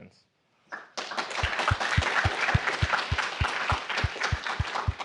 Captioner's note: applause